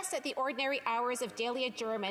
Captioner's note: speaking FRENCH